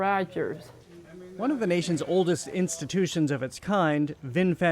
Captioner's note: voice-over